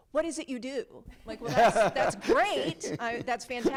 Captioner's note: people laughing